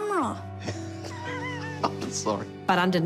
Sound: laughing

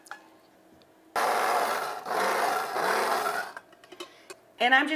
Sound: machine whirring

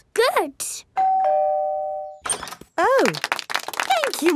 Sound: doorbell ringing; crowd applauding

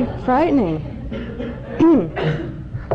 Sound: laughter

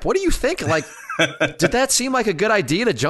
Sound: laughs

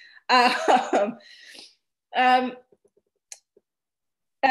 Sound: chuckles

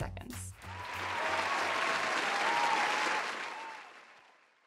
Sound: clapping sounds

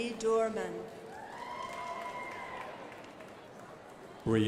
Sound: crowd applauding

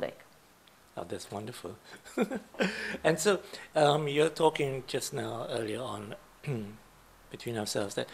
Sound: laughs

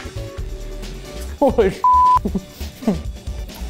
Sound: beep

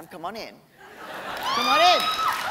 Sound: laughter; cheering and applause

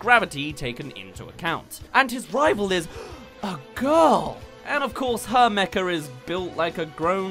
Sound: gasp

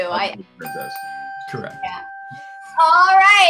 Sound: bell dings

